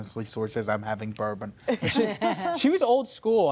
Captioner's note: laughter